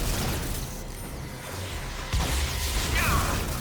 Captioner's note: gun firing